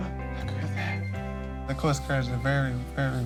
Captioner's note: medical equipment beeps